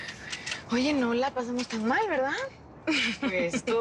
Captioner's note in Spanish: Risas